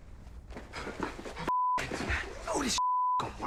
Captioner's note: panting